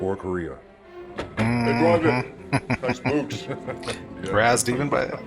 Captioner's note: chuckling